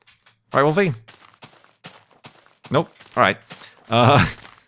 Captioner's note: silence